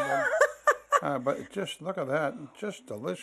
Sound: laughter

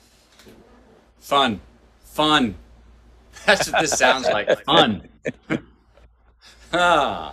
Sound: Sadhguru laughs

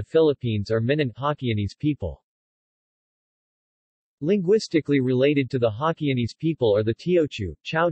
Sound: Hokkienese

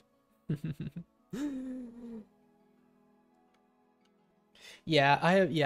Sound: chuckles

